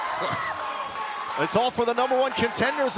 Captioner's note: crowd cheering